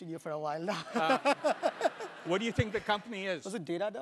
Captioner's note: laugh